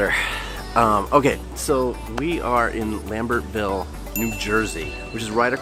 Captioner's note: dings